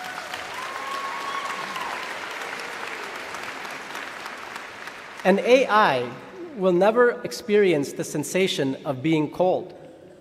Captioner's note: applause